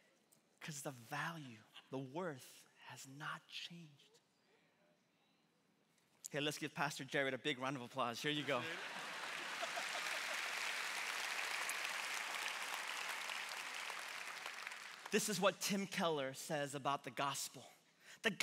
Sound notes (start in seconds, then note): 8.5 laughing; 9.9 congregation clapping